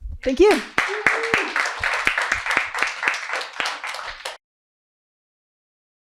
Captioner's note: applause